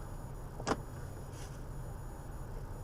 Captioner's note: audible clicking of door locks